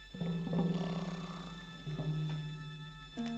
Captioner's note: snoring